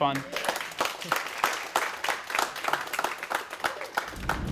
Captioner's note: audience applause